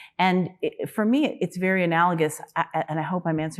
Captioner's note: none